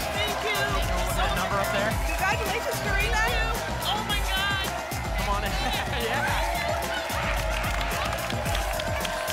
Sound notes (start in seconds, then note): 6.1 applause and cheering cont